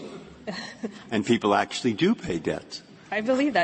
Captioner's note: laughter